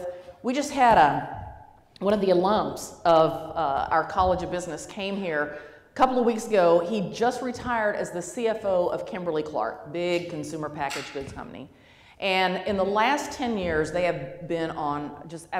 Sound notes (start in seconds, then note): none